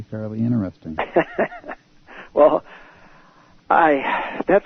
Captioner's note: laughter